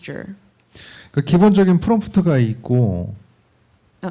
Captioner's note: speaking korean